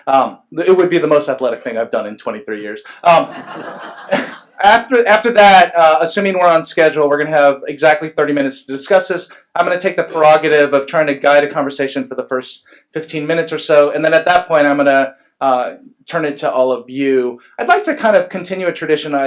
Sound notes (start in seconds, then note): 3.1 laughs